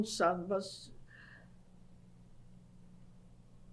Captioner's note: pauses for 10 seconds